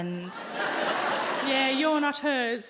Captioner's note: audience laughing